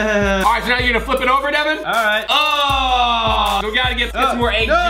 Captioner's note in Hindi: चिल्लाना